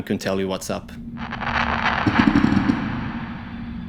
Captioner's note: ominous sounds